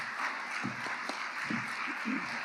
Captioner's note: audience applauding